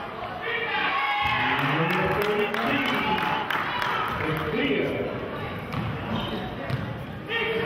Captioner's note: cheering and clapping